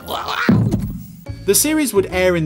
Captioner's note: thudding